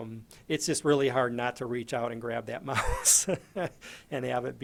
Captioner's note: laughs